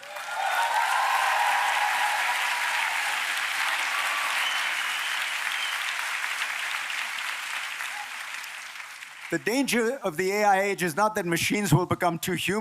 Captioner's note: applause